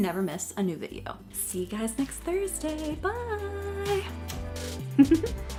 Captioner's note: chuckles; upbeat electronic music